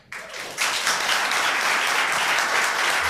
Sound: applause

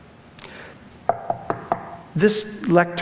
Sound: knocking on wood

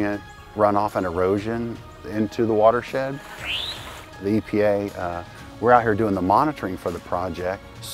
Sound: bird chirping

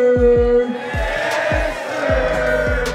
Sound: crowd

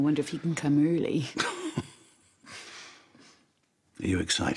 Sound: chuckles

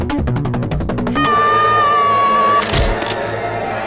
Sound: even more rochelle screaming

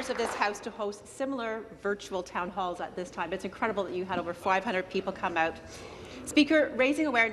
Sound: some Applause

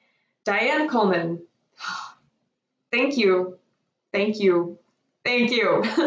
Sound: laughs

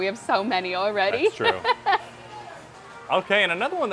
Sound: laughing

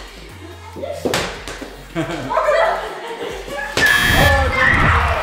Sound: ball bouncing

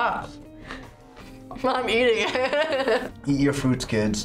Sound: laughs

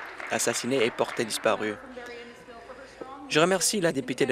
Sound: applause

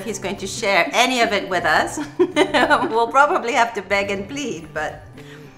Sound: laugh

